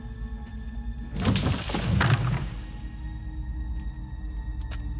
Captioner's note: crowbar thudding